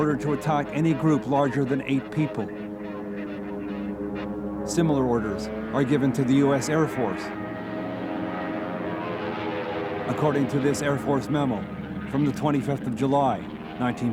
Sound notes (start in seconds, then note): 2.9 radio buzzing; 7.5 airplanes buzzing